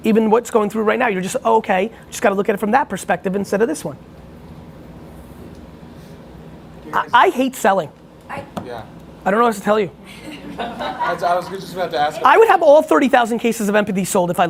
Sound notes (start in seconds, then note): 10.1 laughing